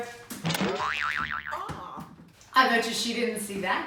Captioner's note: spring boings